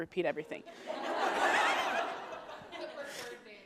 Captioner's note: laughter